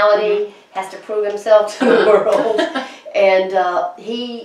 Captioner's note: laughs